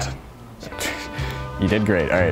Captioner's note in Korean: 웃음